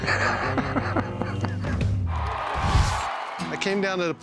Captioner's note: laughing